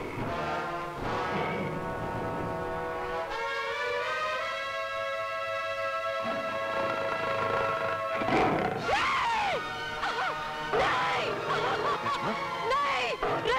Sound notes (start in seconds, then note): 6.2 Cheetah roars; 8.8 Screams